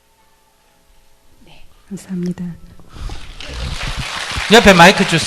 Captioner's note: applause